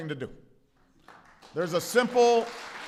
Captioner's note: applause